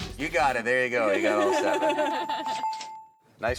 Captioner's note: bells